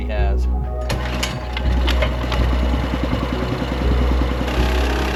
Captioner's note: saw rumbling